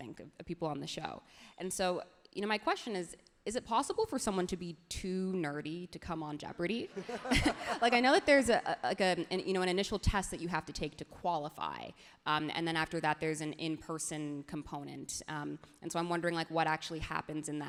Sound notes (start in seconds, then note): 7.0 everyone laughs happily